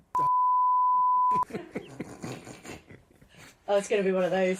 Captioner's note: laughter